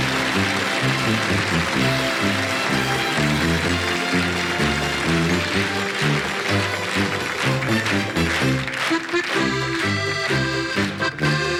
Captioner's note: applause